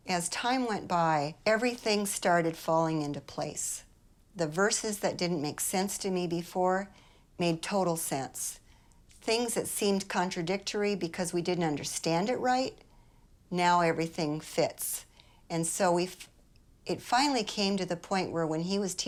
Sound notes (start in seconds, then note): none